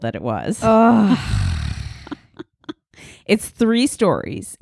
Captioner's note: loudly sighing